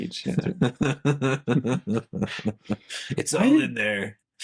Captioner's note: both laughing